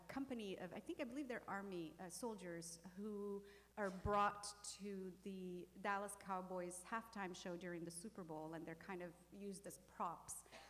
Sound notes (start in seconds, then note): none